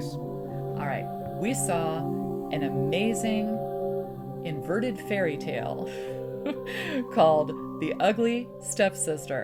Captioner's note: laughs